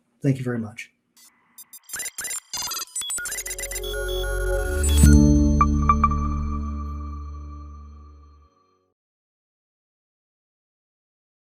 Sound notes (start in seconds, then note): 1.2 electronic beeps; 5.1 logo chimes